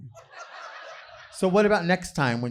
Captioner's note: audience laughing